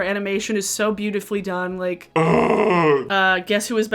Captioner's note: moans